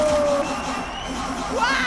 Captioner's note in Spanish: Aplausos